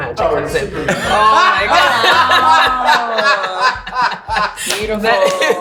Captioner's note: laughing